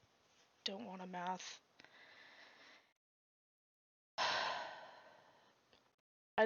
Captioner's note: sigh